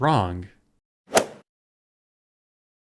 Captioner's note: swoosh